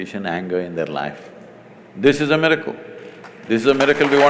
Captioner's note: applause